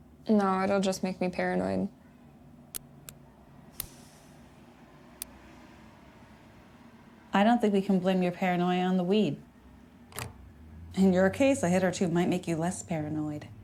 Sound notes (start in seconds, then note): 3.8 lighter clicks